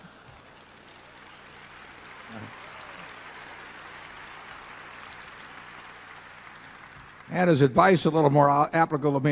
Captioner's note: laughter and applause